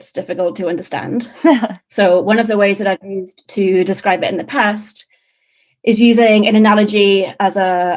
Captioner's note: laughing